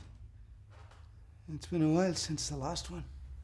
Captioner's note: bangs